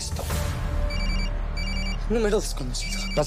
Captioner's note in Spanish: Suena el celular